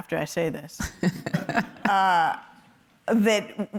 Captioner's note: laughs